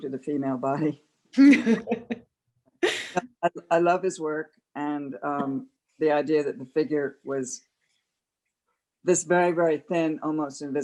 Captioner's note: laughter